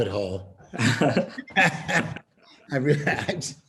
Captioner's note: laughter